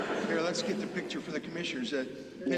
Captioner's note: laughter